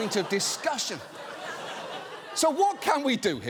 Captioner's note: audience laughing